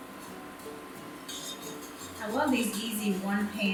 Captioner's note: scraping